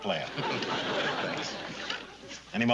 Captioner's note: laughing